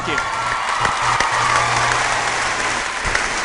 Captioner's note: cheering